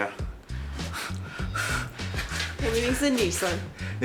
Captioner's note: deep nervous breathing